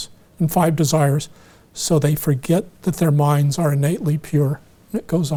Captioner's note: none